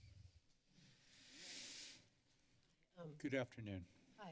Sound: deep breathe

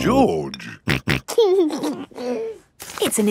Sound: snorting and giggling

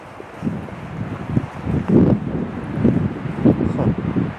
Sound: wind whooshing

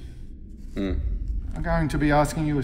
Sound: grunts

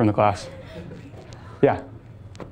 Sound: students laughing

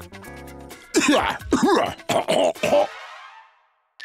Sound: coughing

